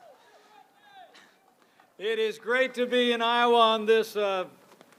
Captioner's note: applause